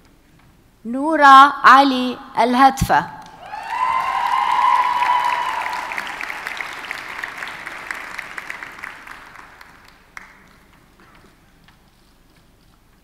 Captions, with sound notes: - Nura Ali Alhatfa. (audience cheers and applauds)